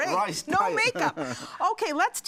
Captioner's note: laughter